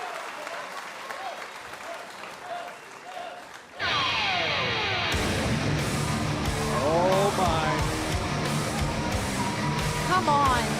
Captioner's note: cheers & applause